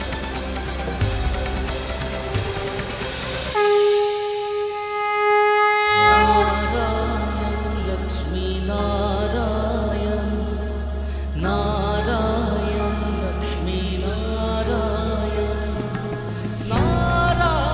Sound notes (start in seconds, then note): 3.4 conch blows